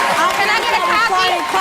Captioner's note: audience applauds